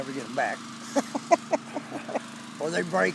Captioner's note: laughing